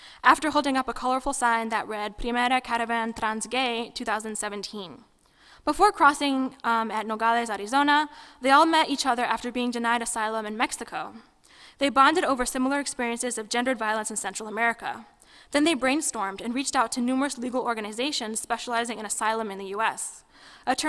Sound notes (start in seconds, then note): 2.3 speaking foreign language